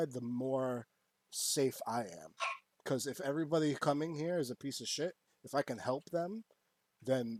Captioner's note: barks